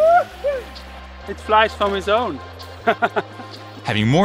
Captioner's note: laughs